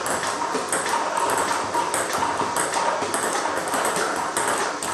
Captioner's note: ball ping pong hitting continues